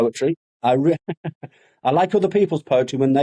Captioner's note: laughs